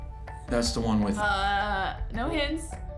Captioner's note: mocking